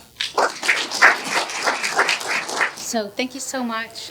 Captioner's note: applause